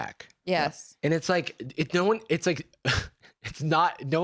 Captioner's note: laughs